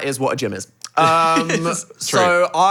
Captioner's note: laughing